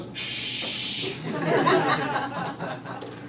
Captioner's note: crowd laughing